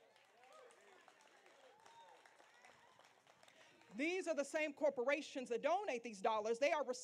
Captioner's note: applause